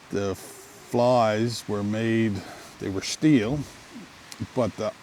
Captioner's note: river gurgling